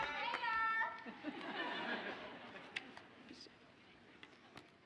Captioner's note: audience laughs